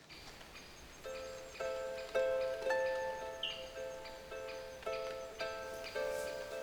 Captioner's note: birds chirping; gentle solemn music